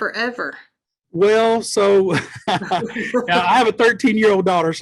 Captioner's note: laughs